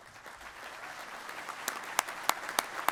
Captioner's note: applause